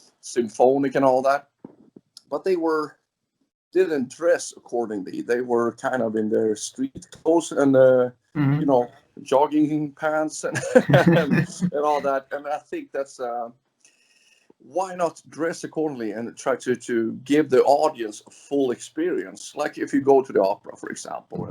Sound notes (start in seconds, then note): 10.3 laughs